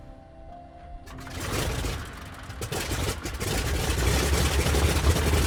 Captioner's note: plane engine starting